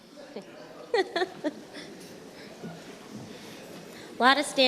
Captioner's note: laughing